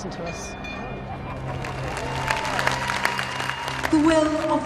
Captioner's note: applause